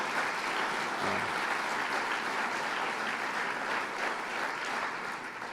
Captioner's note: applause